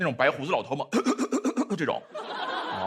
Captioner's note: cough cough cough